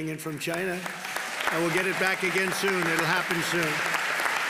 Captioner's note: applause